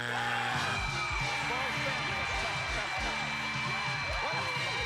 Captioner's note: cheers and applause